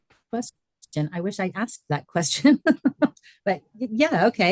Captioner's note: laughing